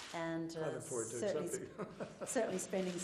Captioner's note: laughter